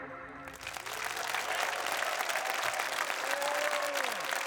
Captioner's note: audience applauding